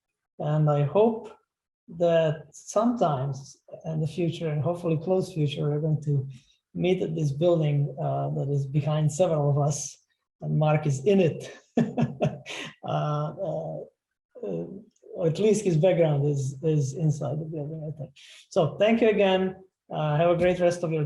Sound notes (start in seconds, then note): 11.7 laughter